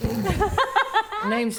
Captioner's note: laughter